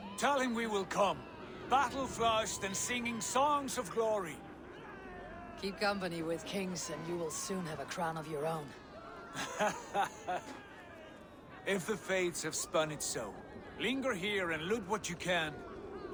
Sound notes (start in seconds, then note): 9.3 laughs